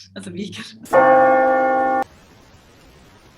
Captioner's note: church bell + rain sound effect